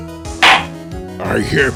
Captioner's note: gavel slams!